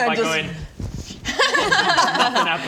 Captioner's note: laughs